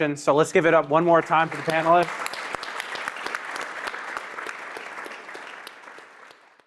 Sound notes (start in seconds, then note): 1.1 audience applauding